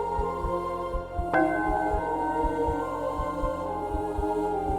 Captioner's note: bell